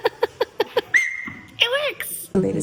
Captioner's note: whistle sounds; giggles